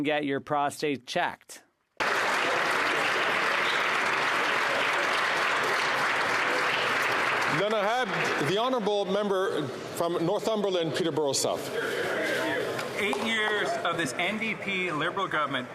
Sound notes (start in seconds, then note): 6.6 applause